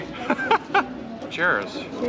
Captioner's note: laughs loudly